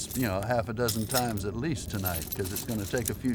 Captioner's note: glass clinks